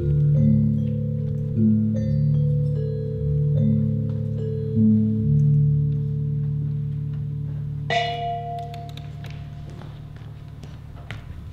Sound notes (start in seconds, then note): 8.0 crash